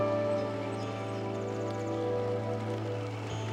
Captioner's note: birds chirping